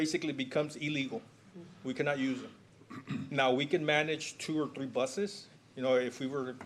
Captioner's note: clears throat